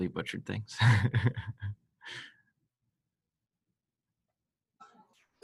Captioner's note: light laughter